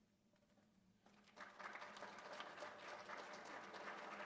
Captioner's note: applause